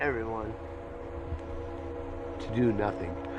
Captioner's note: train horn